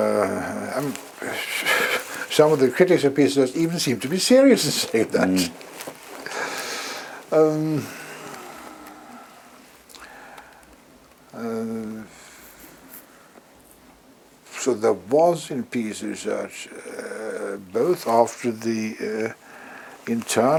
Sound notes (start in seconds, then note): 8.4 laugh